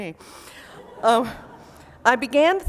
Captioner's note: laughter